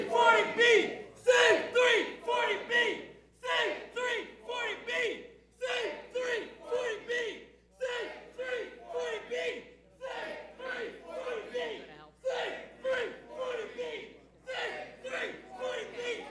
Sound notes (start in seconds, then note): 5.5 chanting save 340b